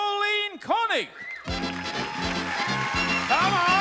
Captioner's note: audience applauding